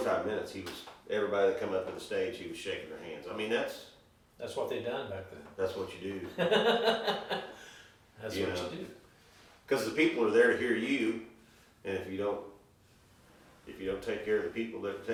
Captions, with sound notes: 45 minutes he was, everybody that come up to the stage, he was shaking their hands. I mean that's- - That's what they'd done back then. - That's what you do. - (laughing) That's what you do. - 'Cause the people are there to hear you, and if you don't, if you don't take care of the people